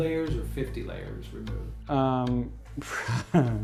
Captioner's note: lachen